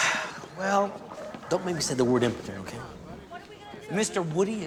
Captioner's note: sighs